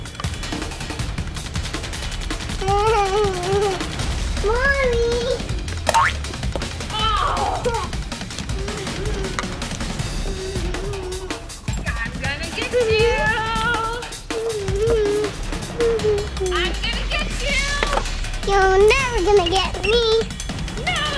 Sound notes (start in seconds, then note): 5.8 bouncing